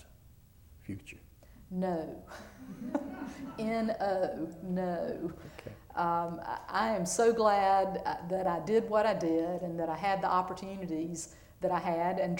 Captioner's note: laughter